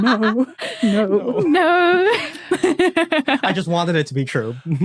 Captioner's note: giggles